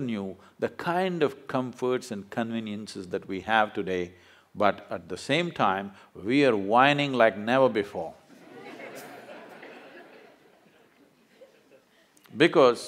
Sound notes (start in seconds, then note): 8.3 laughter